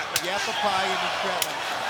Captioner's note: hands smacking